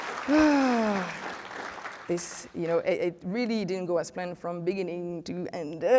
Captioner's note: applause